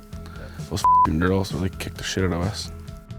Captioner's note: beep